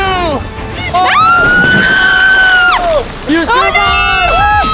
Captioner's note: screaming